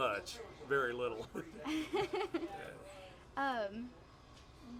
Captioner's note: laughs